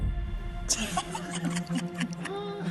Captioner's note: laughing